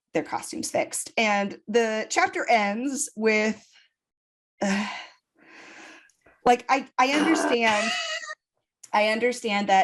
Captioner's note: sigh; groans